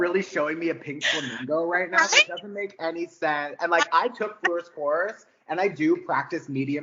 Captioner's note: laughing